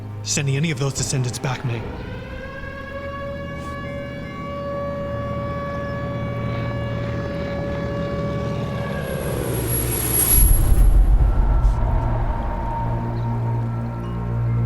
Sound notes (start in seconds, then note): 1.8 air raid sirens wailing; 5.6 engines rumbling; 10.7 mysterious music